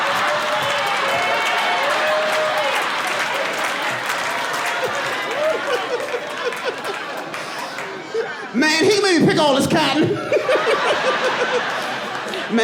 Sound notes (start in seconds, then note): 2.2 laughing; 9.2 audience laughing